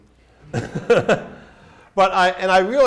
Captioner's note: laughter